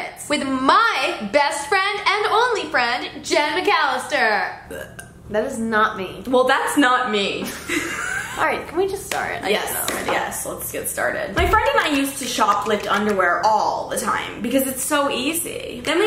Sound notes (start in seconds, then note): 4.6 burps; 7.5 both laugh